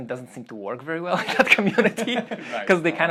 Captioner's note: laughs